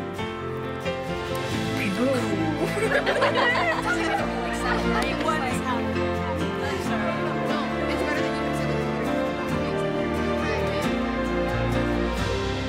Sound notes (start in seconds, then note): 2.4 all laughing; 5.6 students chattering